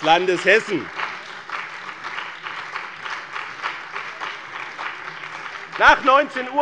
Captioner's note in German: Beifall bei dem BÜNDNIS 90/DIE GRÜNEN und der CDU